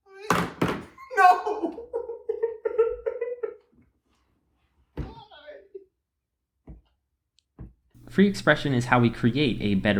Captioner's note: crying